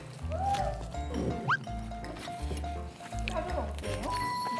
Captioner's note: chomp